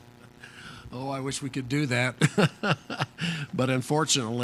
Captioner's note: laughs